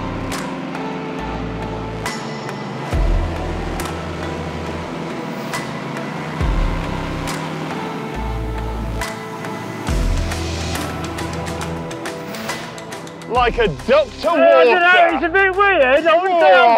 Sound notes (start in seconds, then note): 8.0 engine slowing; 11.7 engine turns off